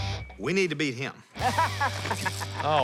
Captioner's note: laughs